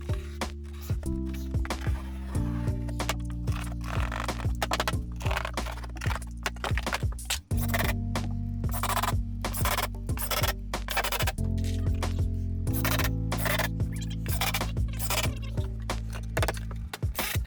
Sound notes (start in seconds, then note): 7.9 drill whirring; 13.3 tape fast forwarding